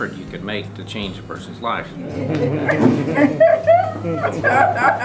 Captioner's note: laughing